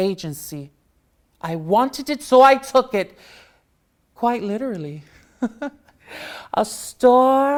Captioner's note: laughs